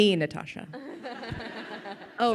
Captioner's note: crowd laughing